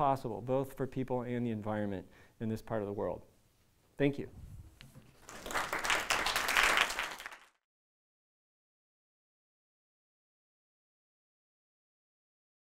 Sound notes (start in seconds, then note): 5.2 applause